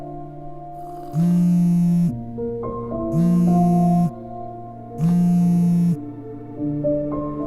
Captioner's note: phone Vibrates